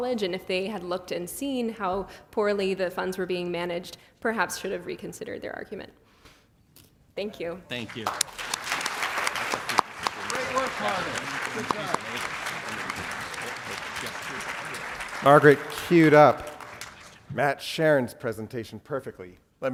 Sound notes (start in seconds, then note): 8.9 applause